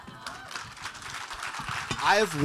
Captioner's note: audience applauding